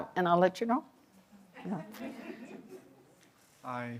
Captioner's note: audience chuckles